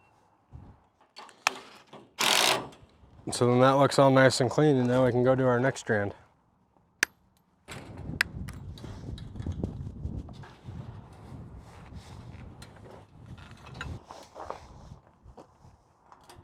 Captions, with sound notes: (drill whirring) So then that looks all nice and clean, and now we can go do our next strand. (snapping)